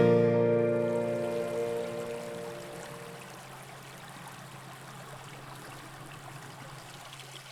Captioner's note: running water